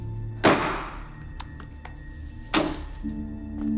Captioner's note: gun slams on table